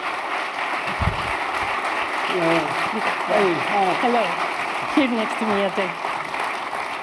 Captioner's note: foreign language